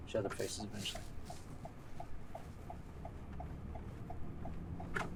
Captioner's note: sirens blaring